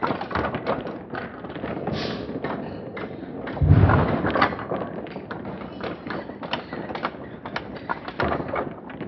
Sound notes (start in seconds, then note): 1.2 slow-mo MMX sounds continues